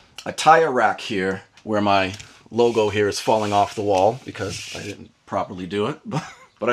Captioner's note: laugh